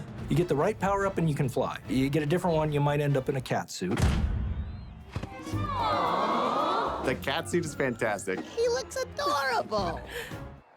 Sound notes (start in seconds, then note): 4.6 crowd; 9.2 Peach giggles